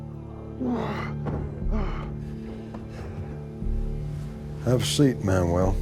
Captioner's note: panting